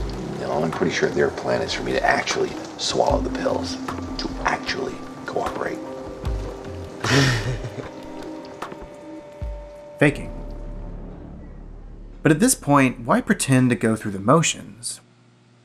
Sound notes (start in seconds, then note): 7.0 laughs